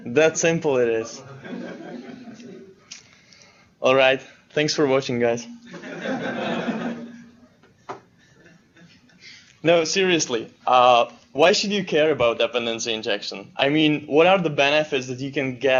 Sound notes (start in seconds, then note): 5.7 laughter